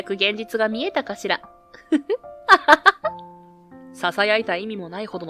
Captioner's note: laughs